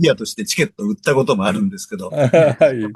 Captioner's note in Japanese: 咳払い